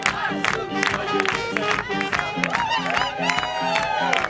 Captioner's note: cheering